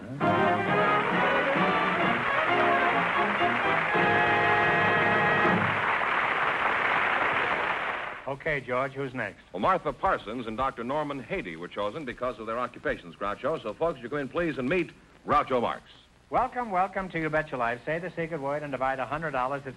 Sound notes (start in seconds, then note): 0.1 theme music & applause; 5.5 applause; 5.5 theme music & applause; 5.5 applause